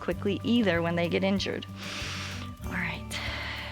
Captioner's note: inhales